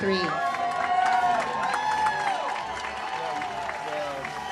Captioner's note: audience cheers